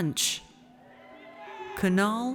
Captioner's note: audience cheers